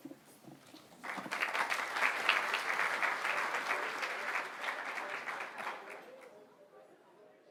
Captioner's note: applause